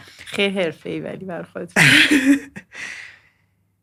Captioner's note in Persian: خنده